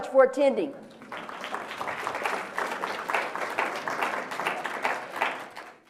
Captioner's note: applause